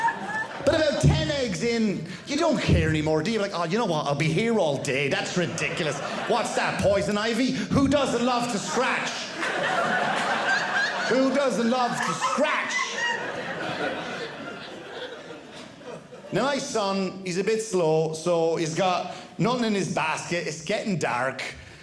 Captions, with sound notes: But about 10 eggs in, you don't care anymore, do you? You're like, you know what? I'll be here all day. That's ridiculous. What's that, poison ivy? Who doesn't love to scratch? (audience laughing) Who doesn't love to scratch? (audience laughing) Now, my son is a bit slow, so he's got nothing in his basket. It's getting dark.